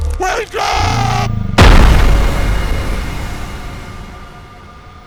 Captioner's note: loud bang